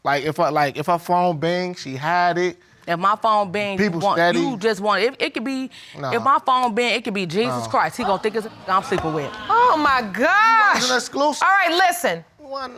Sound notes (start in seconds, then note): 8.0 audience exclaiming